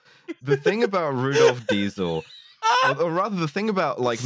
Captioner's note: laughs